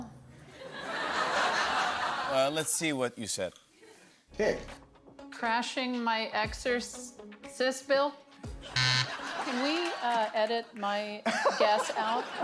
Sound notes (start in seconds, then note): 0.6 laughter; 8.7 buzzer